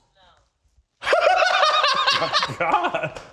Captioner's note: laughs